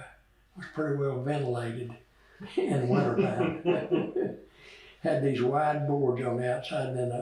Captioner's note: laughter